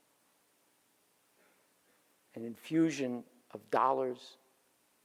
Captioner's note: none